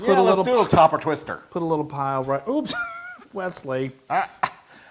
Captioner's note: laugh